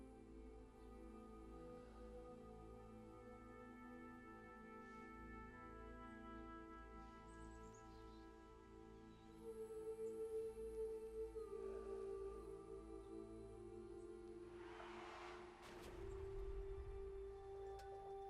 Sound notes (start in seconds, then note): 12.7 skidding, crash